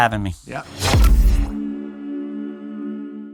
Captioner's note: logo whooshing